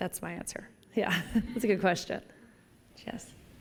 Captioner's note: laughter